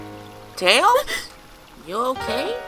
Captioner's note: gasps